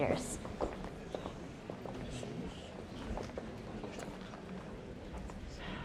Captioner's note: people murmuring